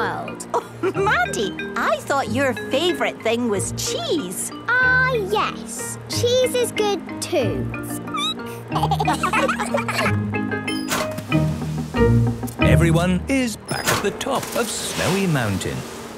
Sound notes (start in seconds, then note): 7.9 squeaking; 8.7 laughter